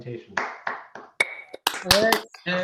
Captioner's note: applause